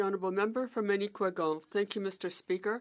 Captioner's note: speaking French